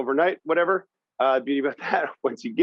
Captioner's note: chuckles